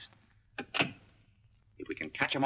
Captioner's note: phone clicks into receiver